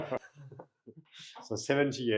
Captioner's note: laughing